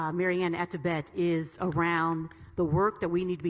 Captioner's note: clapping